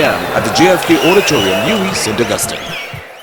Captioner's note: wild applause and cheering for 22 seconds